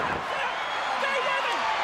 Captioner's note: crowd cheering